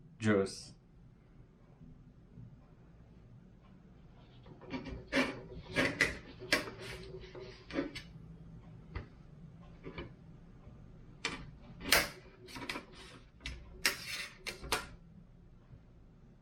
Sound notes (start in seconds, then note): 4.4 plastic scrapes